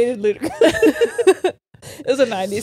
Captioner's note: all laughing